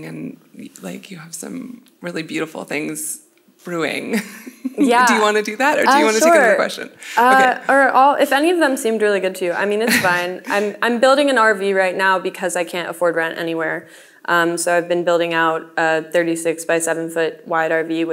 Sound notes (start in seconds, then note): 4.1 laughs